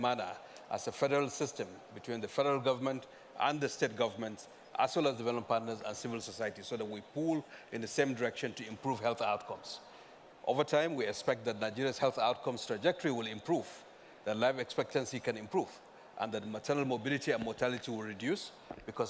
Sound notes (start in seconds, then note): none